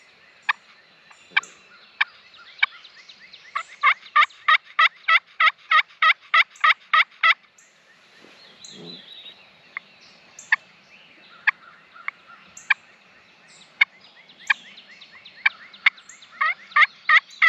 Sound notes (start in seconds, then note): 8.9 bird whistles; 11.1 turkey calls